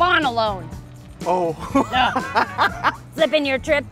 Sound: laughs

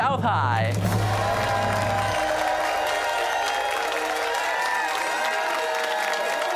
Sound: cheers and applause

